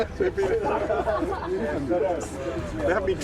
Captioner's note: group laughing